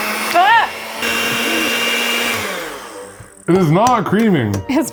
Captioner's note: blender whirring; exclaiming